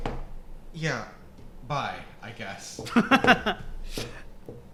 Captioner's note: laughter